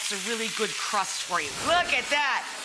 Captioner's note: whooshing